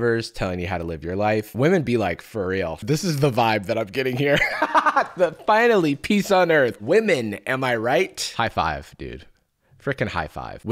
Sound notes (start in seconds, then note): 4.0 laughs